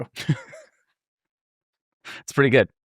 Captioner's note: laughing